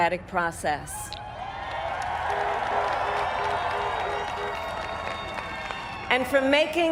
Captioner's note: applaud